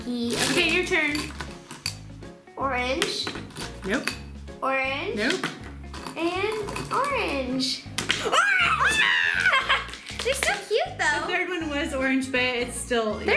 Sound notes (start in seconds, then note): 8.2 screams